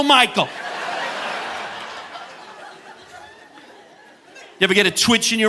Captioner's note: audience laughing